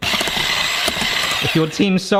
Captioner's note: headwhisk whirs